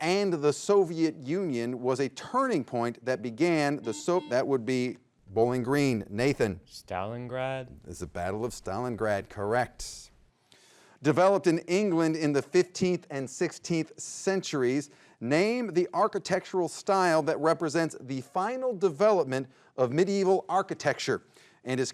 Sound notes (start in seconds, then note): 3.8 buzzer buzzes